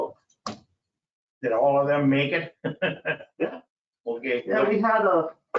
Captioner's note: he laughs